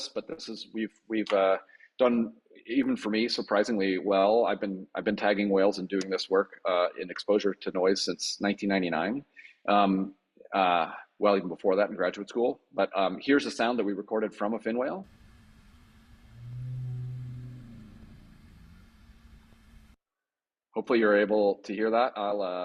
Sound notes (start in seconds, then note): 15.2 whale calling